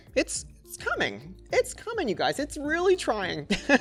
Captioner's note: laughs